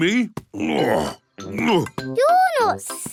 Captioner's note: grunts